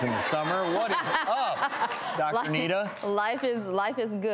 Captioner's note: audience laughs